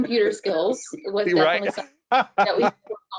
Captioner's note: laughs